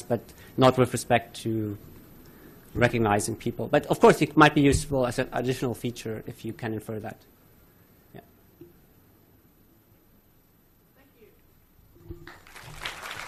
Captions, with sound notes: but not with respect to recognizing people. But of course it might be useful as an additional feature, if you can infer that. Yeah. (applause)